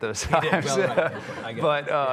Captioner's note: audience laughs